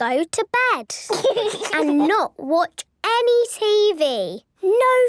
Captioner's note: laugh